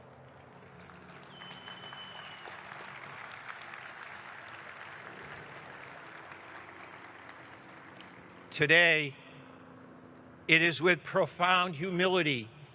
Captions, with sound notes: (audience whistles) (audience clapping) Today it is with profound humility